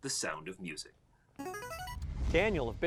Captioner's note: buzzer